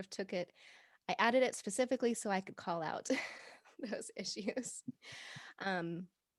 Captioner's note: laughing